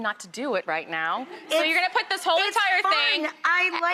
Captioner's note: audience laughing